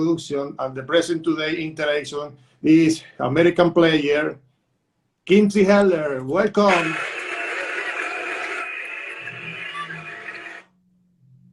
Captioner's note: applause